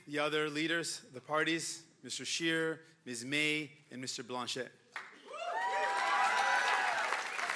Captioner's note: cheering and Applause